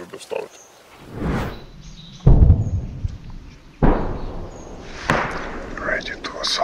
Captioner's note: birds tweeting sounds; sounds of explosions